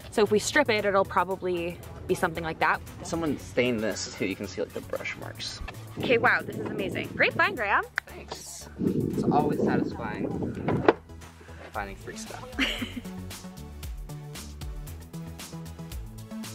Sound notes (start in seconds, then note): 6.6 wind blowing; 9.1 wind blowing; 12.5 laughing; 13.8 upbeat music